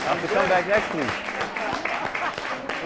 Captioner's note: applause